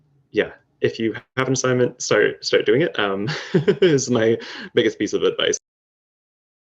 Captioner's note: laughs